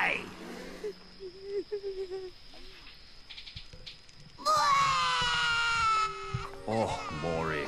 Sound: whimpering; crying

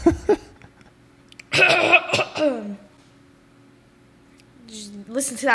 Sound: laughs; clears throat; clears throat loudly

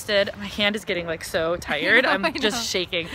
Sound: laughs

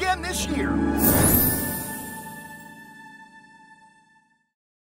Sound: chimes tinkling

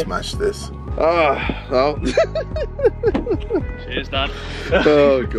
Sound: all laughing

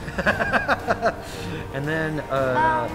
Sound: laughing

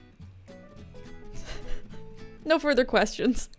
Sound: light chuckle

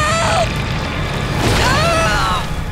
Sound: groaning

